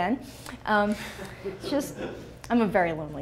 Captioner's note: laughs